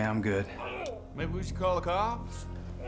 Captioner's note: man groaning